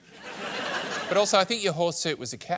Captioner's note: laughter